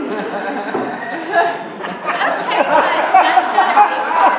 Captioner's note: laughter